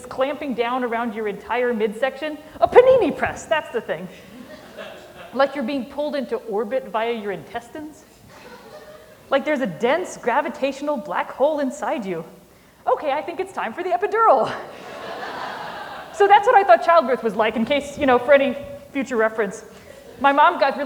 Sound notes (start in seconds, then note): 16.6 laughter